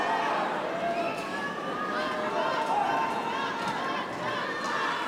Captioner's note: audience cheering